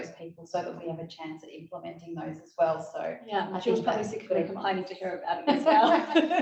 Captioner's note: laughter